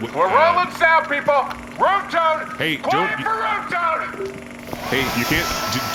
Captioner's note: screaming